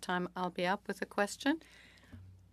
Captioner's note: speaking French